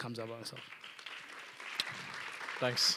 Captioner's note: applause